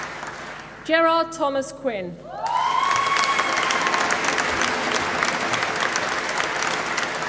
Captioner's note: applause